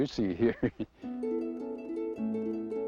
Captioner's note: laughs